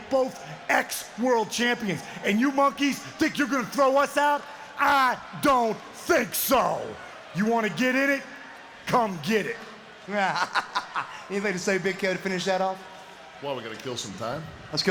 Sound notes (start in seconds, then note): 10.2 Buff laughs